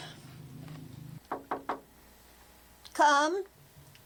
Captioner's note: knuckles tapping